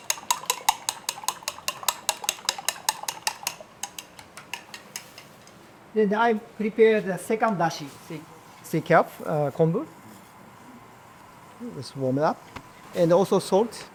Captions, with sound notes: [Ambient kitchen noise] Let's warm it up.